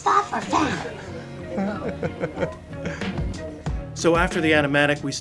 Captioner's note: laughing